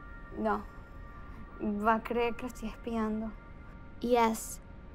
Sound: in Spanish to self

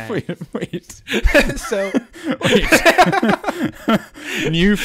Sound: all laugh

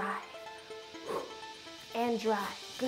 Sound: exhaling

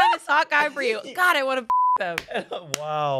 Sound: beep

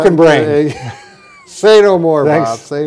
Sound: laughing

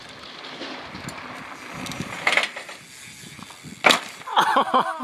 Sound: bicycle squeaking

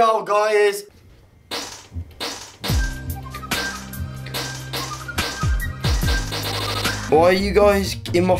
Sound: farts

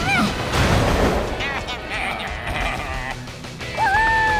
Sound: baaing

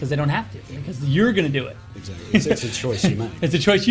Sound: laughs

